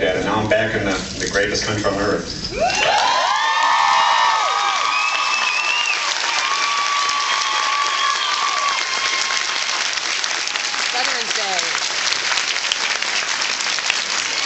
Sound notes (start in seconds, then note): 2.5 cheers and applauds